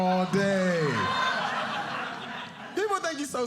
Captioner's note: audience laughing